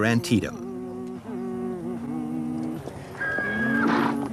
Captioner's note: humming